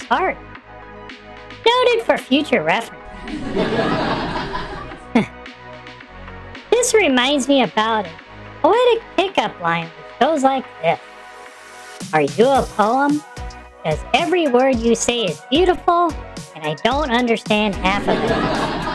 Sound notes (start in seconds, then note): 3.3 laughs